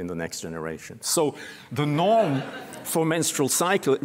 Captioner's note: laughter